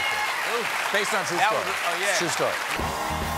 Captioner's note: applause